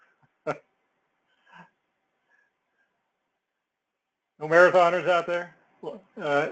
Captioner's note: laugh